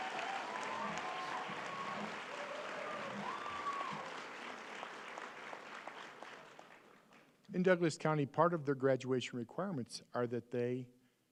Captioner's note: applause